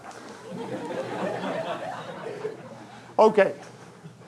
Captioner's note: audience laughing